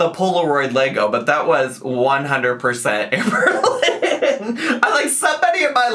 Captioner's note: laughs